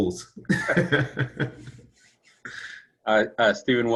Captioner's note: laughing